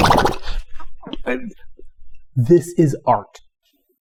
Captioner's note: flabbergasted fumfering